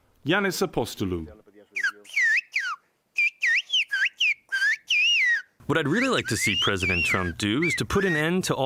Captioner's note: through translator